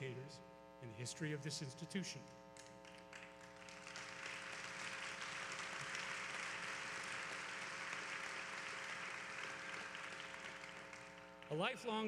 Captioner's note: applause